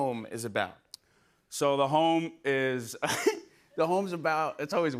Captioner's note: chuckles